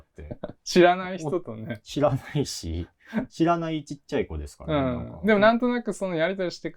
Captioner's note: laugh